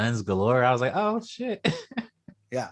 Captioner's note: laughs